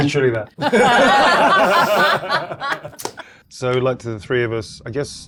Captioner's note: participants laughing